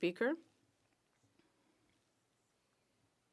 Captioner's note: speaking French